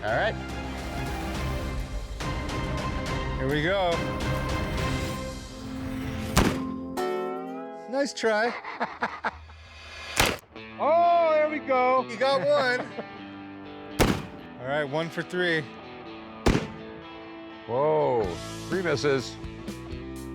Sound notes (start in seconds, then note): 0.9 tense music; 8.2 laughs